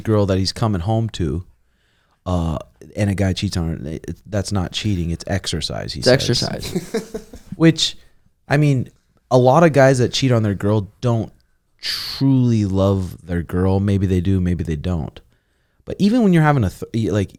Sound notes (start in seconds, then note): 6.0 laughing